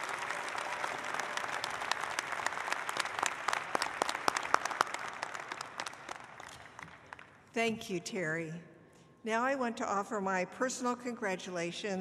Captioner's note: applause